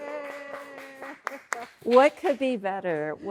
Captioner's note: audience cheering and clapping